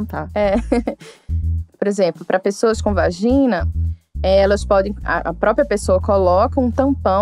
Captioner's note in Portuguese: risos